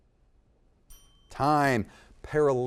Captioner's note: bell tings